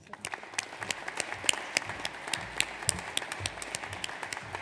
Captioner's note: audience applauds